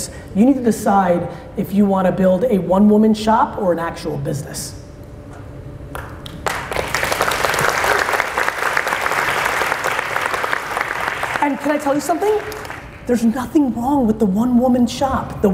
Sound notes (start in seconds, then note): 5.9 audience clapping